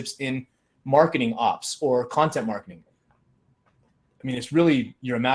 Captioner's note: none